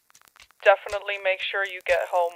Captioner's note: over the phone